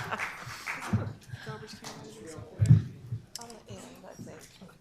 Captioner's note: people chattering